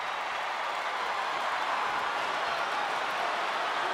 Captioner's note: crowd cheers